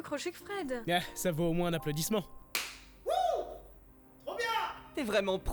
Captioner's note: clap